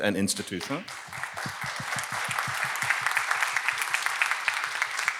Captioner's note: attendees clapping